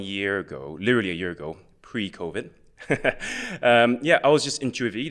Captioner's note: chuckles